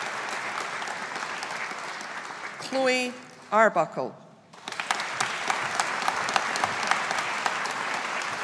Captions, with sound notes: Chloe Arbuckle. (AUDIENCE APPLAUDING)